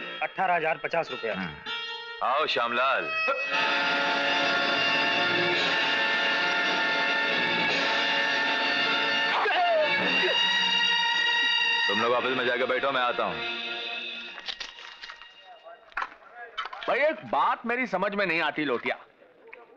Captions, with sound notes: Eighteen thousand fifty rupees. Come Shyamlal. (Groans) (Groans) You all go to the office and sit, I am coming. Lotia, I don't understand one thing.